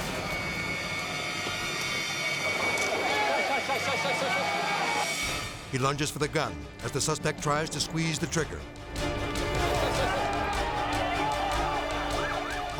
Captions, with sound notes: (people shouting) He lunges for the gun as the suspect tries to squeeze the trigger. (dramatic music) (people shouting)